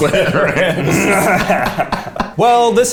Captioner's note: all laugh